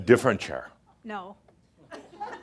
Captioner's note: some giggles